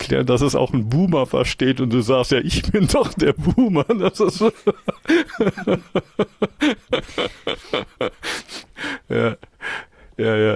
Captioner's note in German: gelächter